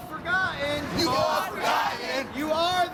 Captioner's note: crowd Responds